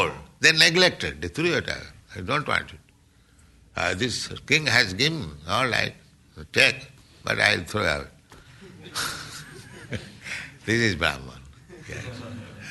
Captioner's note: laughing